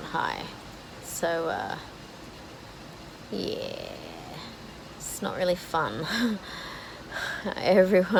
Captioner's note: laughs nervously